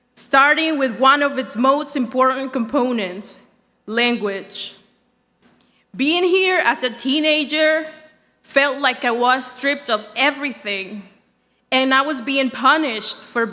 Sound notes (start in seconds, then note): none